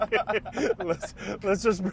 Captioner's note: laughing